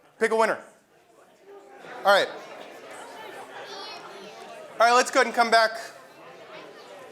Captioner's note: laugh